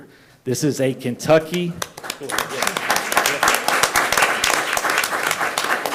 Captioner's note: attendees applauding